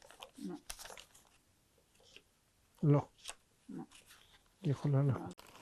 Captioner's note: hebrew